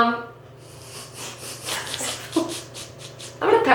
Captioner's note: giggling off-camera; both laughing